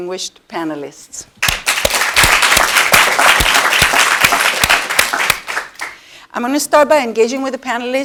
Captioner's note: applause